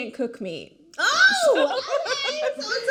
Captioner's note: laughing